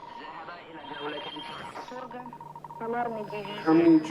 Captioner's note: radio transmission